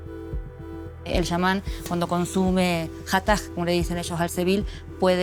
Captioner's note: speaking Spanish